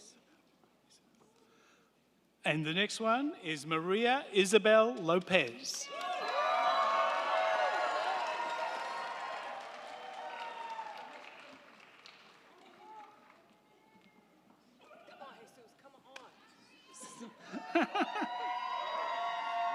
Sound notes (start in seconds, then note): 4.9 crowd clapping; 5.8 crowd cheering